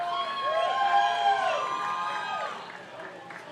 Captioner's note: crowd cheers